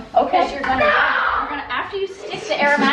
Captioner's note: child shouting in background